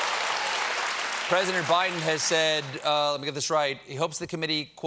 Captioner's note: cheers and applause